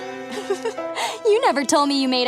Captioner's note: giggles